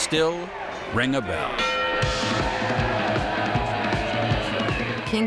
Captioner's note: bell rings; bright cheerful music